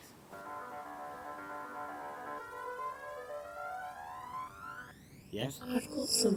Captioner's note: ringtone